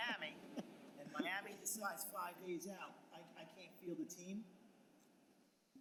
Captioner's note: laughter